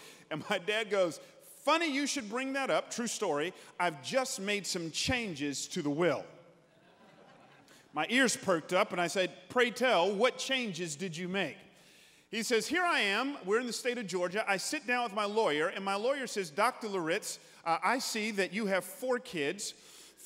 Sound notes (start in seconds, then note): 6.6 congregants laughing